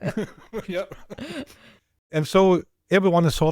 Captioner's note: laughs